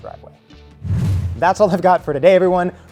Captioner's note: fast whoosh